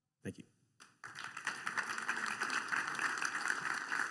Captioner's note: applause